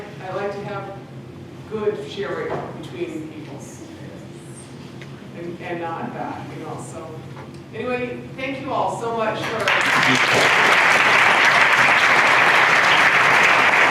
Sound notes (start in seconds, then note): 9.4 applause